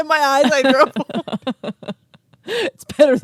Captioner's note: both laughing